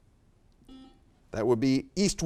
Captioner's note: buzzer beeps beeps